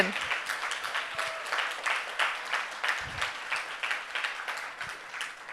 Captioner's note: audience cheering and applauding